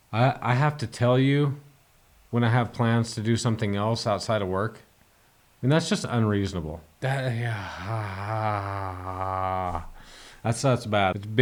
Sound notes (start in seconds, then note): 7.8 snores